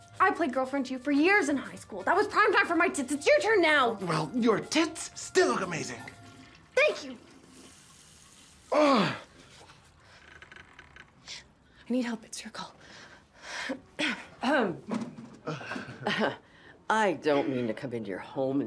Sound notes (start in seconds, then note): 8.7 Max grunts; 14.0 Dorothy clears her throat; 15.5 chuckles